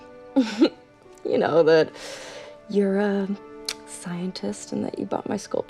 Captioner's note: chuckles